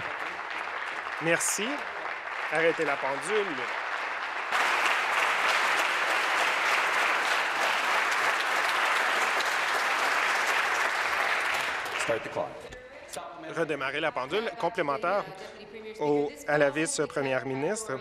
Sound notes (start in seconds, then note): 0.0 applause